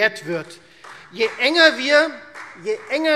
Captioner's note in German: Beifall Freie Demokraten